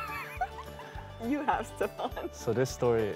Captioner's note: laugh